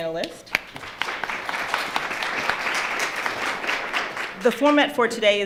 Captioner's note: audience applauding